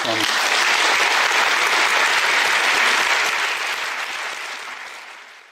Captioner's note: claps